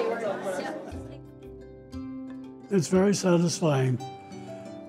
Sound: laughter

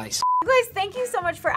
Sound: beep

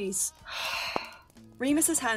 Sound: Remus exhales

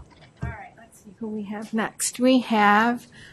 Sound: voiceover

